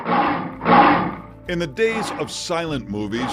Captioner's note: lion roars